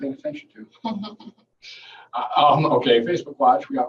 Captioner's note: laughing